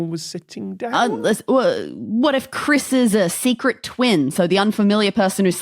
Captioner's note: stammers